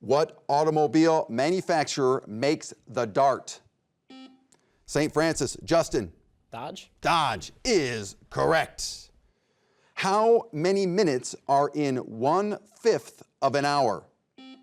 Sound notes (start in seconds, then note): 4.1 buzzer beeps; 14.4 buzzer beeps